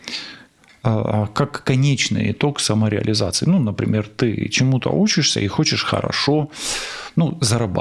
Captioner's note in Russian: фыркает